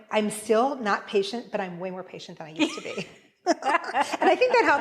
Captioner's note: laughing